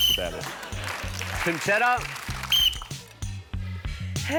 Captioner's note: whistle blows; whistle blows